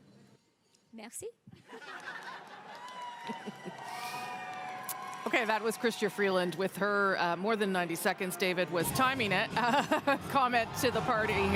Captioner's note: cheering and applause